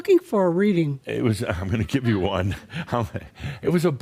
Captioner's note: Adamus chuckles